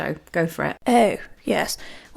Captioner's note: posh voice